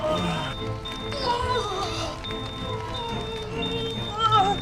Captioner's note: jogger groaning